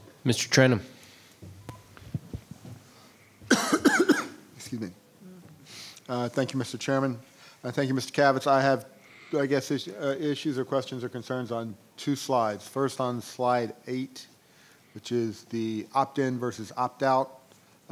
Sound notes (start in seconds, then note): 3.4 coughing